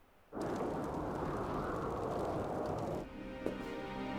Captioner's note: wind whistling